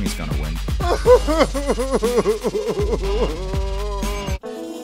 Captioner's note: cries